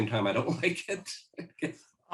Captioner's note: chuckles